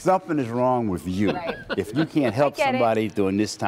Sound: laughter

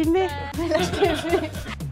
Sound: laughs

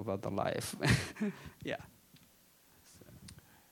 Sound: chuckling

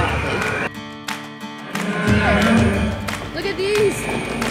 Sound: dinosaur roar

